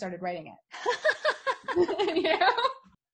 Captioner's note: they laugh